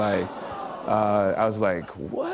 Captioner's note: awws